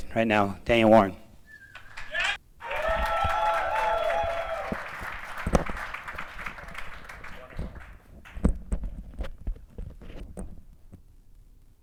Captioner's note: applause